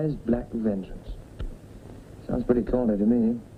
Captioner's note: tutting